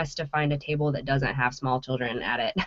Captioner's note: laughing